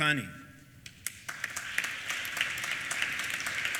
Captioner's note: applause